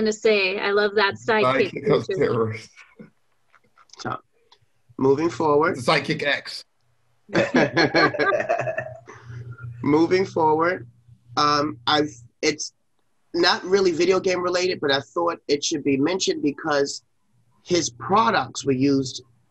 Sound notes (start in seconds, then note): 7.3 multiple speakers laugh